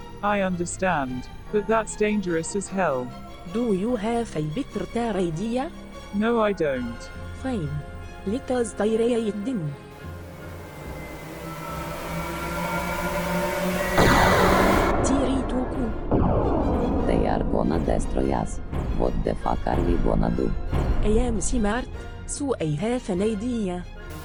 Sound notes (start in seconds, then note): 10.1 spaceship crashing; 10.5 spaceships flying